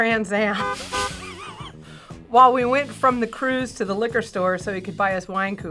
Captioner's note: laughs